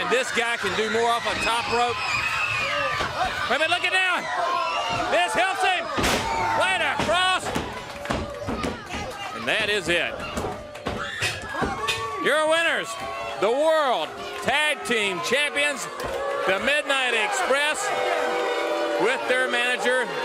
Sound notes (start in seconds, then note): 3.0 crowd cheering